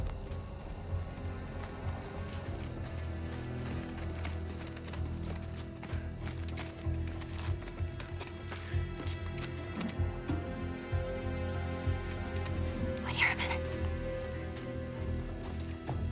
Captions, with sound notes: (WHISPERS) Wait here a minute.